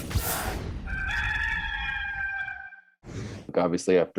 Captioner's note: rooster crows